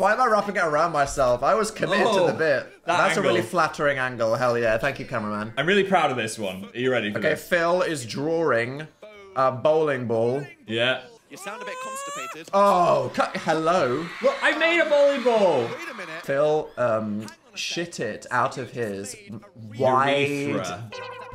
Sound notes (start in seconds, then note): 11.2 Phil exclaiming; 11.3 crowd cheering